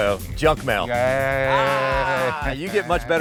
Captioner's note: both laughing